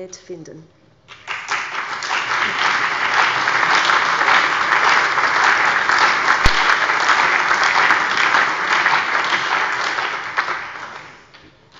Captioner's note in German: Allgemeiner Beifall